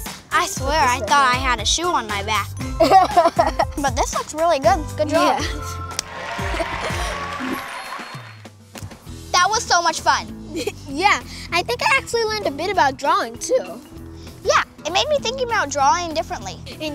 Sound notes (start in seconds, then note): 2.8 laughing; 6.0 audience cheering